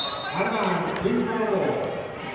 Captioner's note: whistling